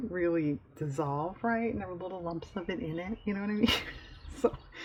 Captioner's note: laughs